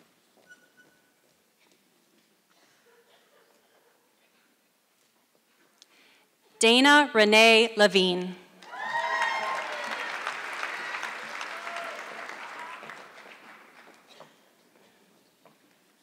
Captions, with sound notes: Dana Renae Levine. (audience clapping)